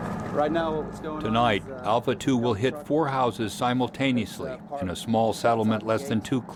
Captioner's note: voiceover